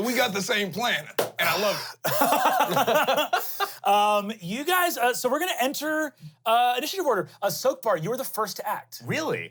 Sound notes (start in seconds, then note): 2.0 laughs